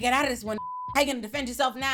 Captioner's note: beep